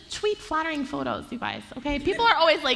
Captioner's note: laughter